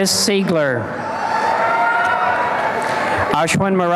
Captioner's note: applause and cheering